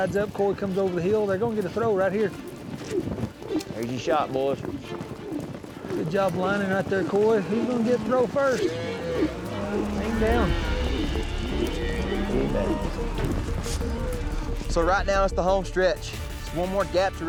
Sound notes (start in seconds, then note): 10.4 rope swirling; 12.2 ropes swirling